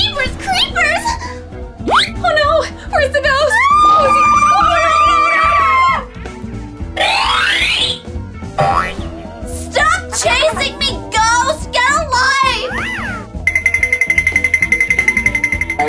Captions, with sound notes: Jeepers Creepers, oh no, where's the bells. [Screams] stop chasing me ghost, get a life!